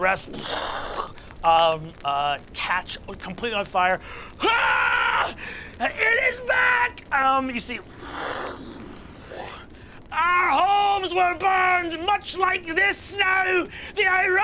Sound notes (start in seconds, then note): 4.3 pained screaming; 8.4 mimics rushing flame